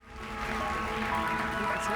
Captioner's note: applause